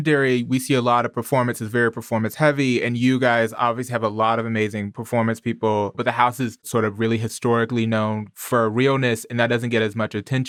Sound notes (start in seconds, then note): none